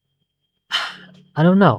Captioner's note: sigh